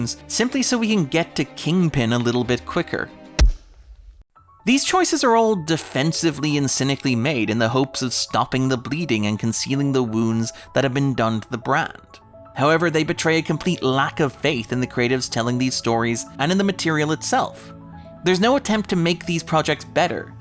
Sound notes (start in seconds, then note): 3.4 thud